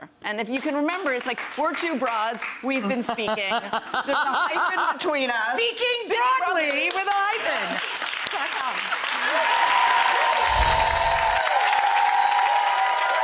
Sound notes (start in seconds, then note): 0.5 audience clapping; 4.0 laughs